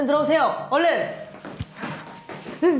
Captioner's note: huffing and puffing